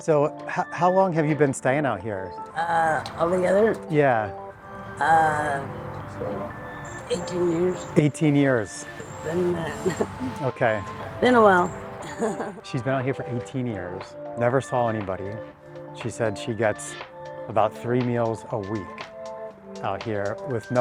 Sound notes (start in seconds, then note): 12.0 chuckles